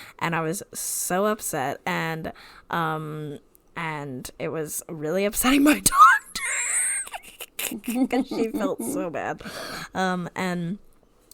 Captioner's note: wheeze laughs